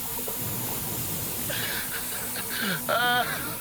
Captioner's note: alarms and hissing